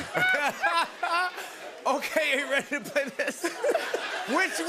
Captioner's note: laughs